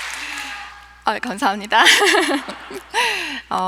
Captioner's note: applause